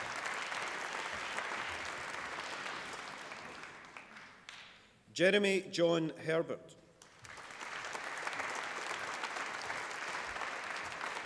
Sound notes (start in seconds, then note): 7.0 applause